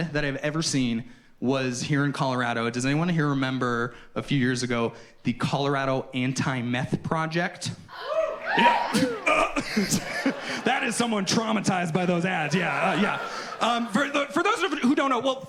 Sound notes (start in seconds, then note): 7.9 audience hoots; 9.5 and audience laughs